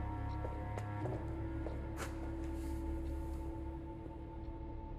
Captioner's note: footsteps departing